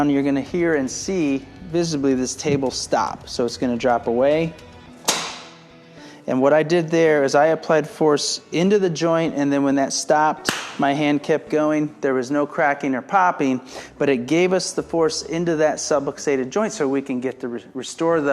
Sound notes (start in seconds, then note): 5.1 table clacks; 10.7 claps